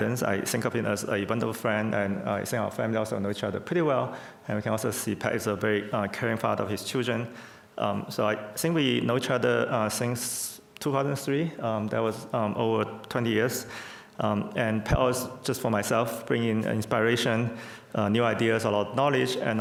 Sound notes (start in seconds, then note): none